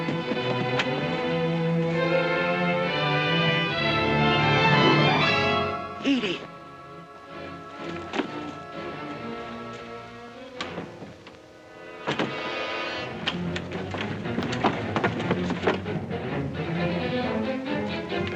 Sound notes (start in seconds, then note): 0.0 door opens; 0.3 suspenseful music; 7.7 soft suspenseful music; 12.0 door clatters; 13.1 suspenseful music